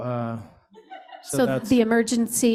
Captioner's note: laughter